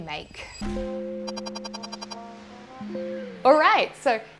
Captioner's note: digital tones beeping; upbeat music